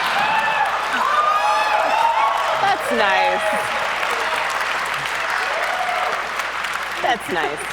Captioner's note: audience whoops and claps